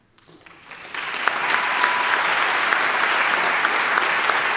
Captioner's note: audience applauding